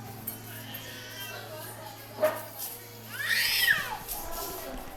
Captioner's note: babies crying